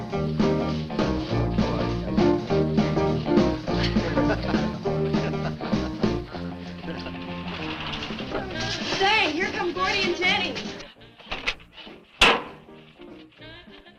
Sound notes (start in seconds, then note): 0.0 lively dance music; 3.7 man chuckling; 7.7 engine rumbles